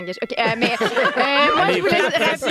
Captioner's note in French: rires